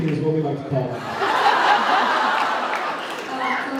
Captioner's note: laughs